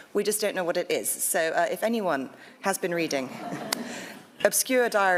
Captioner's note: audience laughs